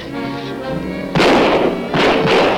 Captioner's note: gun Shots